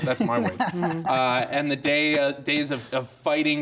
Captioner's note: laughter